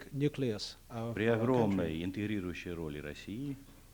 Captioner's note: non-english speech